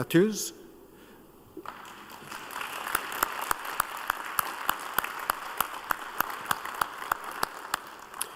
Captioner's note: applause